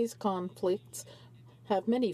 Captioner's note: speaking French